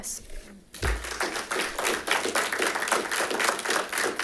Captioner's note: audience clapping